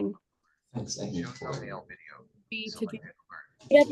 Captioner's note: video conference background interference